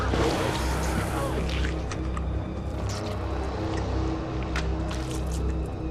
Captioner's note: squelching continues; thunder rumbling